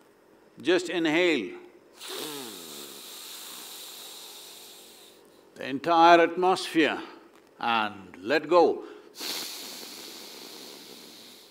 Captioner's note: inhales; exhales